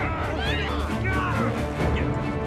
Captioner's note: woman screams